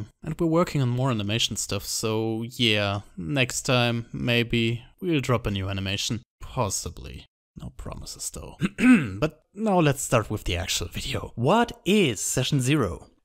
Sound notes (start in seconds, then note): 8.6 clears throat